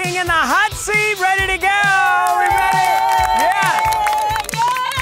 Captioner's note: crowd cheers